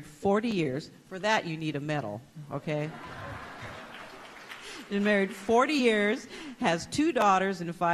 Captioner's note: applause